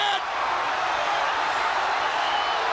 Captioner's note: crowd cheering